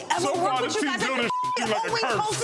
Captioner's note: beep